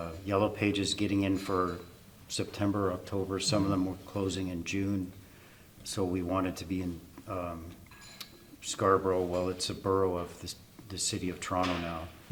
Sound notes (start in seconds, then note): none